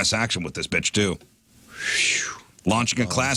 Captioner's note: whistles